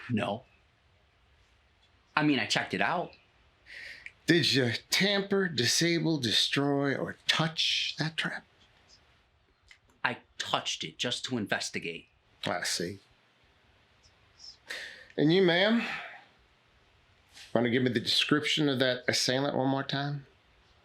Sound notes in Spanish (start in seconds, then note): none